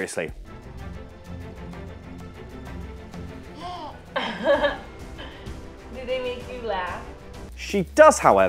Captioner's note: She laughs at James Ellsworth